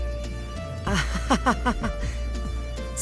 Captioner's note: awkward laugh